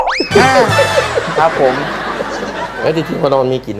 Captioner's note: laughter